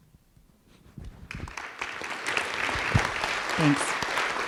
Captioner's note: audience clapping